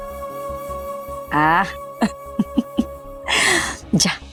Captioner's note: chuckles